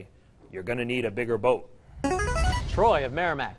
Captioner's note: ringer